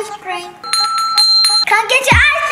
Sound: rings bell

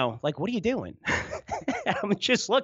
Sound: laughs

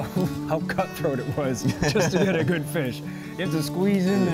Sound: laughs

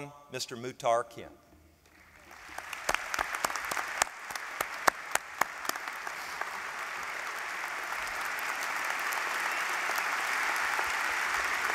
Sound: applause

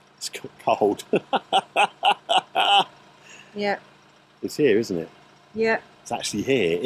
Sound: laughter

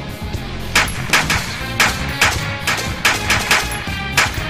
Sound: guns firing

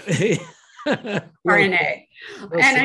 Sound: both laughing

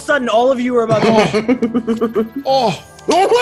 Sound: laugh

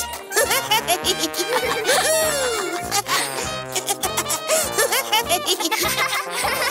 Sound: lively music; chuckling

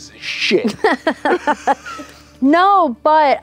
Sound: laughter

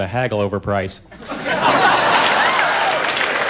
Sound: laughter

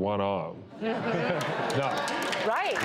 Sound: audience chuckling and applause

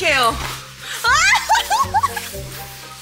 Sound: shriek

